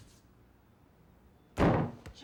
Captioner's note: bang on door